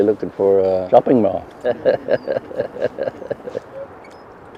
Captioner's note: laughs